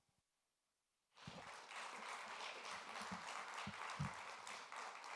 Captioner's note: audience applauding